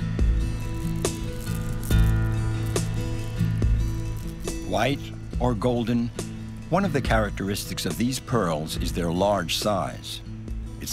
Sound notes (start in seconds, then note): 0.1 soft music; 0.6 pearls rattling